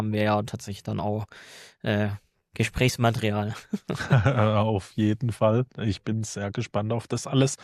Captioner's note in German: gelächter